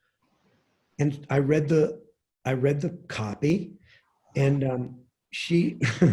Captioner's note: chuckles